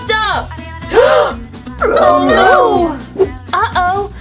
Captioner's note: gasps